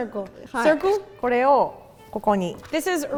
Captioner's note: speaking in Japanese